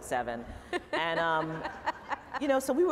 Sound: laughter

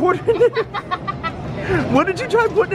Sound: laughs

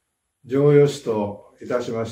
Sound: speaking japanese

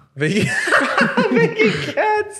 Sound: laughing

